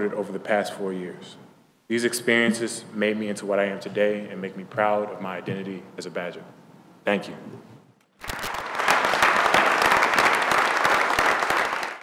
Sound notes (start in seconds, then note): 8.2 clapping